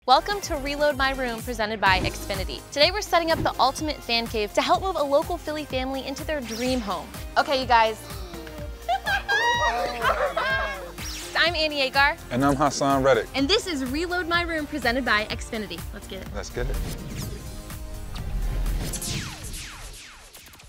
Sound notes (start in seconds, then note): 8.0 homeowners gasp and laugh; 17.4 upbeat music